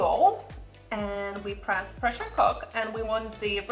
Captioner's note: Instant Pot beeping